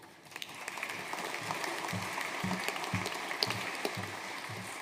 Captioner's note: audience applauding